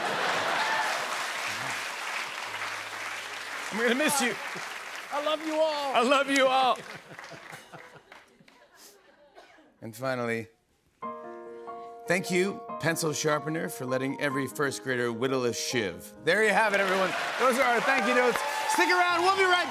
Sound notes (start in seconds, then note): 0.3 laughter and applause; 6.7 laughter; 11.0 tender music plays